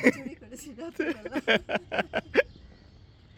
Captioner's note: laugh